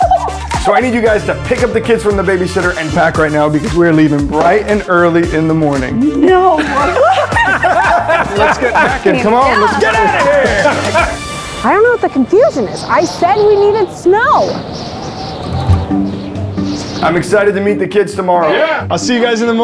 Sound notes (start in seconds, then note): 6.0 laughs; 14.2 wind howling